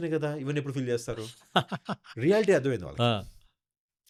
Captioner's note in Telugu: నవ్వు